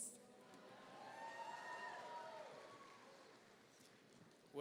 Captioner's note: audience cheering